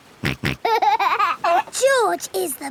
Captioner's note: snorts and laughs